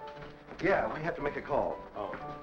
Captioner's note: pat